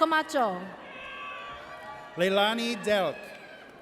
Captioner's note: audience cheers